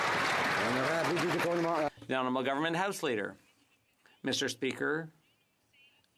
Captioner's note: some Applause